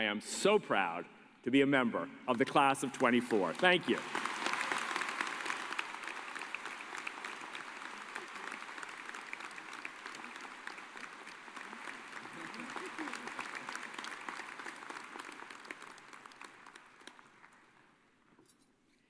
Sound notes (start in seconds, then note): 8.3 cheers and applause